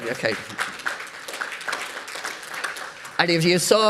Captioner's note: audience applauds